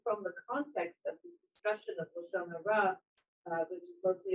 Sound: speaking in foreign language

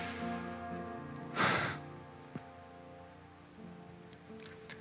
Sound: sighs

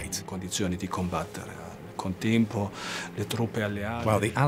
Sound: speaks in foreign language

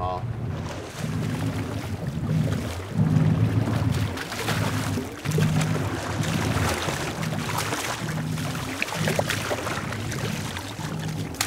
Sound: fish splashing

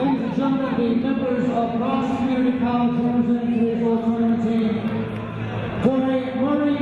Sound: echoing

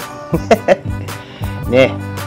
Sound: laughs

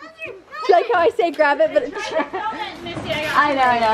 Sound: laughs

